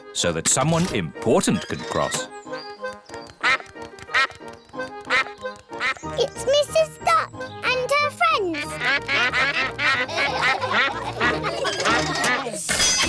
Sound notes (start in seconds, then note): 3.6 quacks; 7.6 all quack; 9.4 laughter